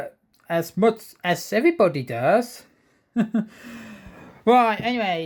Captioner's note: chuckles